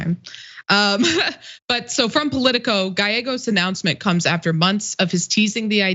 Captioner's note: laugh